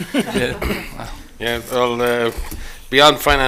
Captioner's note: laughter